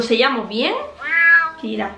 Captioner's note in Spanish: maullido